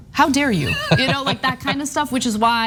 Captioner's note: laugh